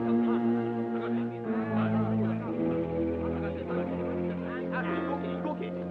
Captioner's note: Japanese troops chattering